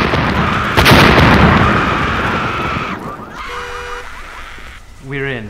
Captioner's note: screams and explosions